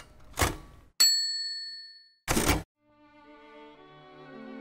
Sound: typewriter dinging; orchestral music

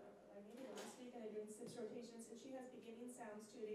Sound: speaking faintly

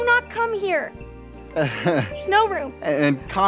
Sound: laughs nervously

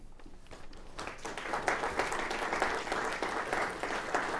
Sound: audience applauding

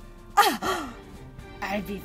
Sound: dramatic gasp

